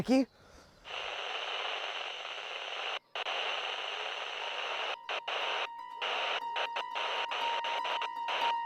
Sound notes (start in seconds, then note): 0.8 static